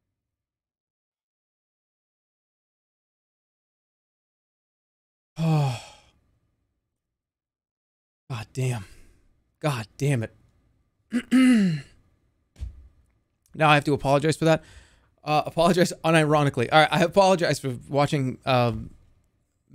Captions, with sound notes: [sighs] God damn. God damn it. [clears throat] "Now I have to apologize for that"? Uh, "apologize unironically." All right, I apologize for watching, um,